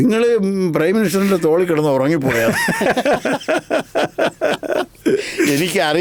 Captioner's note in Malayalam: പൊട്ടിച്ചിരി